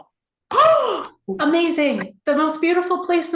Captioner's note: gasps